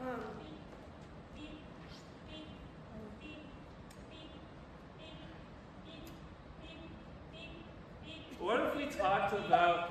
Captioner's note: beep beep beep beep beep beep